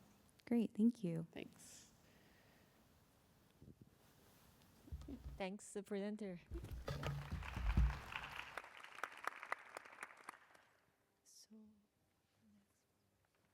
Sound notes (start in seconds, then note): 6.9 applause